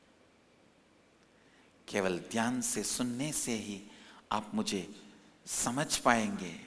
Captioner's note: hindi